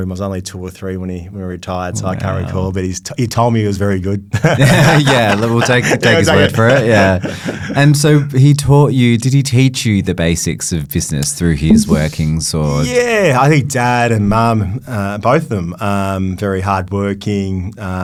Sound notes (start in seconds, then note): 4.3 both laughing